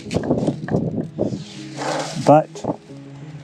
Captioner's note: wind blowing